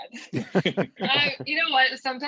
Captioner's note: chuckles